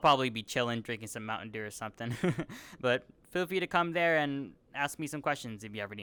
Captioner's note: giggles